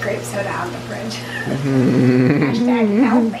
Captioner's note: chuckling